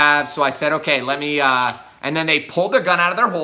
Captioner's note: gun clicks